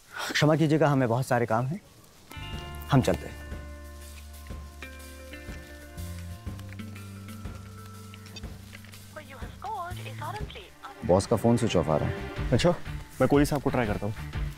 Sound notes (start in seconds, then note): 8.0 beeps on mobile